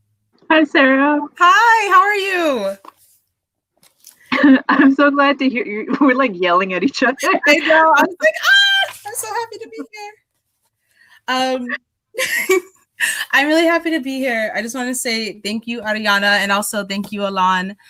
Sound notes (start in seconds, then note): 7.5 both laugh; 11.0 laughs